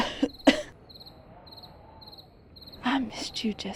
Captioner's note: Zee coughing